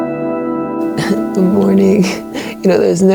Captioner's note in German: lacht